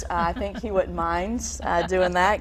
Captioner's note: laughing